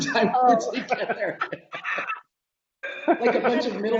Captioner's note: laughing